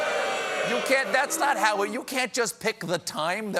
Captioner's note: booing